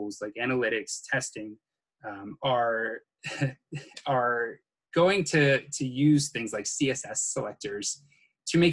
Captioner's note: chuckles